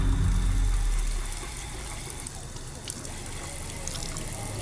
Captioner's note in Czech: teče voda z kohoutku